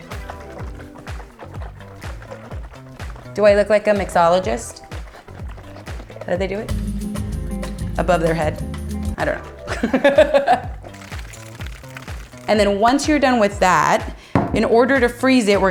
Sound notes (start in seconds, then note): 0.0 upbeat funky guitar music; 0.0 liquid splashing in container; 7.2 upbeat salsa music; 9.5 laughs; 10.5 liquid continues splashing